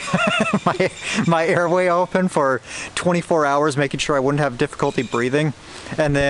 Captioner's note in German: Gelächter